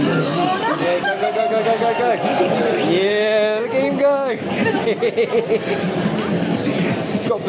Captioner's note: laughs